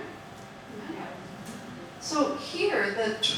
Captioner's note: audience murmuring